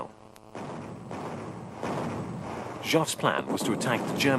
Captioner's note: bombs exploding